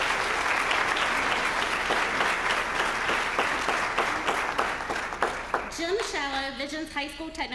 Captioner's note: applause